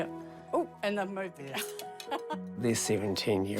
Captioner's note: chuckles